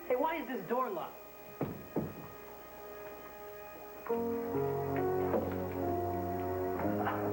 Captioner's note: door opens